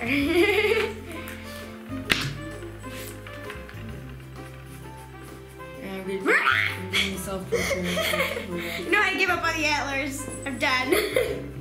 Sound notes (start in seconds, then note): 0.0 laughing; 6.3 screams; 7.7 laughing; 10.8 laughing